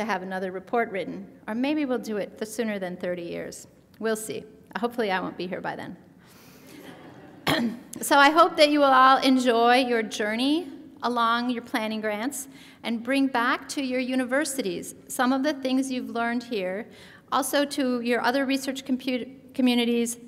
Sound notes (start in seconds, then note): 6.6 laughter